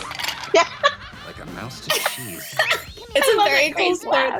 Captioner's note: laughter